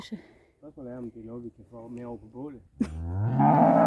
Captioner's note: laughs